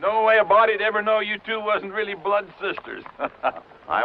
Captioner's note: chuckles